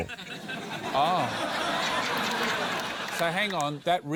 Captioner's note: laughter